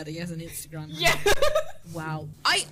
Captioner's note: laughing